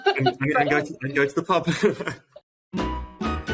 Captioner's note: laughing; upbeat ambient music